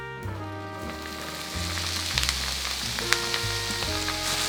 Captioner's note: sizzling